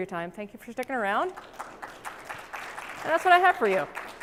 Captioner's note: applause